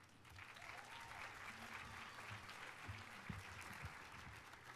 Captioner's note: audience clapping